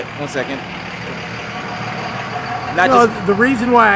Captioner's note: car engine rumbling